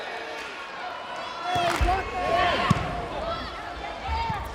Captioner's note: players yelling